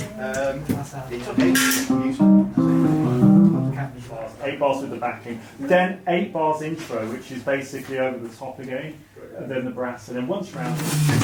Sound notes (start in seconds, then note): 0.9 group chattering; 1.3 guitar tuning